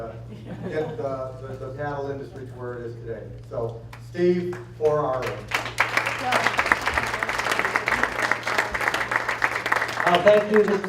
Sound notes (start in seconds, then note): 5.0 applause